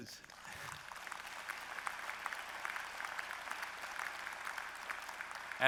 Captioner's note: applause